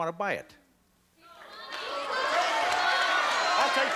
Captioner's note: cheering and applause